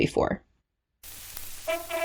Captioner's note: Static